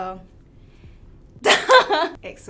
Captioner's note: laughs